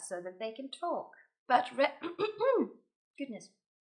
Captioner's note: clears throat